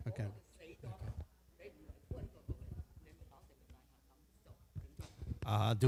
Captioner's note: speaking Chinese dialect